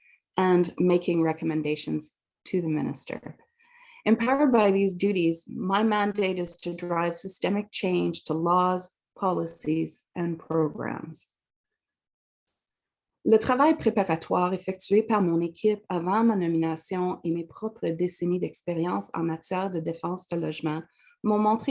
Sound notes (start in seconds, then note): 13.2 french spoken